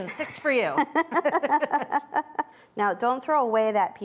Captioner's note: both laughing